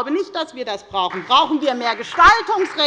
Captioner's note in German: Beifall bei der FDP